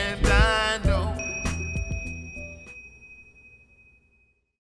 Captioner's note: Pangea bells ding